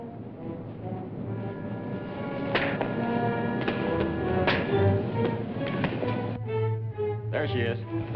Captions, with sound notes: [PUNCHING] There she is.